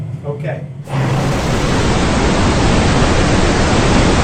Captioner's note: loud white noise